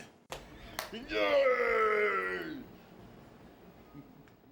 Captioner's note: cheering